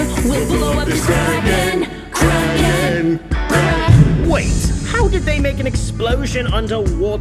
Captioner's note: boom